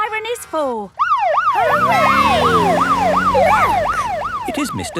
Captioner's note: siren